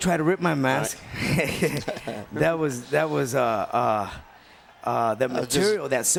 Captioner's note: laugh